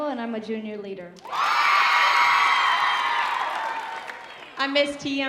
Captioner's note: audience cheering